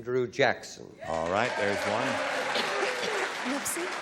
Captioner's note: applause